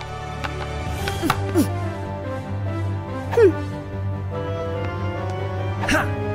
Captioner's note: dramatic orchestral music; Princess Oren grunts; The Squire grunts